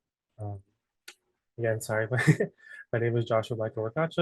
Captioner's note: laughs